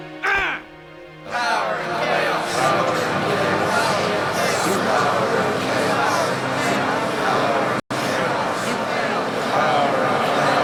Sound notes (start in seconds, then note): 0.2 grunting; 2.5 chanting